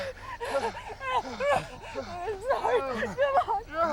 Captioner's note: crying